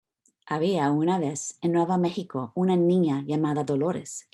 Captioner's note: foreign language